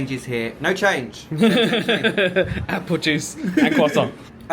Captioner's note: laughs